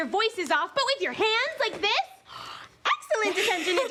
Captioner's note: laughter